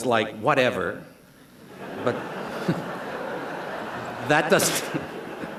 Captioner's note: laughter